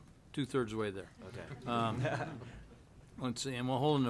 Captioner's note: laughs